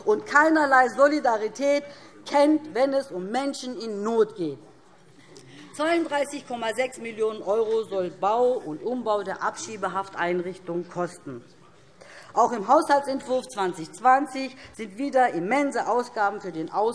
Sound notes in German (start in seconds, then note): none